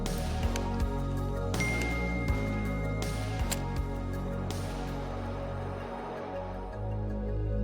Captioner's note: gentle, electronic music; phone notification rings